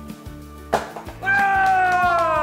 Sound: pop; cheering

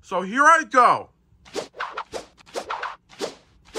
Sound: paintbrush whooshing

